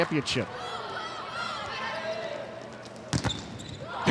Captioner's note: players shouting indistinctly; ball thumping